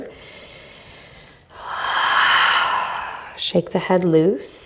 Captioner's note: exhaling